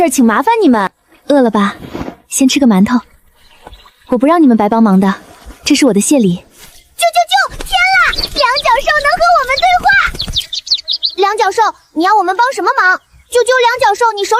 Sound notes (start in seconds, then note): 7.1 chirp chirp chirp; 13.2 chirp